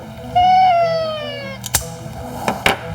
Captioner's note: Joey wailing; trimmer clicking